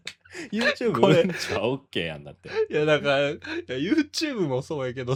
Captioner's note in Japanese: 笑い